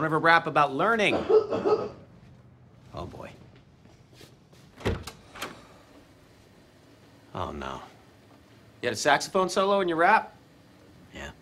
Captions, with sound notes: Don't ever rap about learning. - [coughing] - Oh, boy. - Oh, no. You had a saxophone solo in your rap?